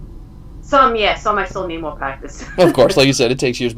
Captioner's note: laughs